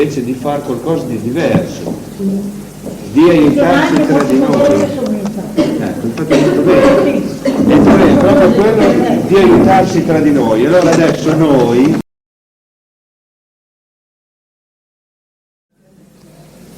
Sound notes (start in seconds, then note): 10.7 audiocassette interruption